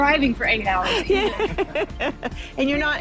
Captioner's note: laughing